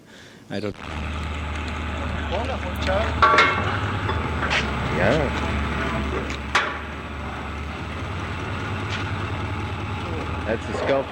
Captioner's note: background fabrication noise and inaudible dialogue